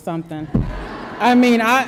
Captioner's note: audience laughter